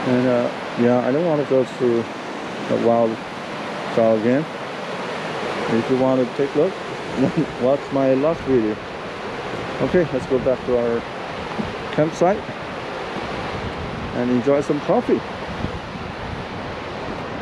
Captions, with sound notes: and uh yeah I don't want to go through the wild trail again if you want to take a look [laughing] watch my last video okay let's go back to our campsite and enjoy some coffee